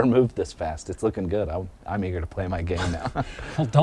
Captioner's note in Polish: chichot